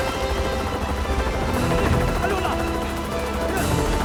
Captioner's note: Korean